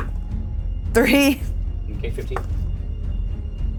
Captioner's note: die thuds; chuckles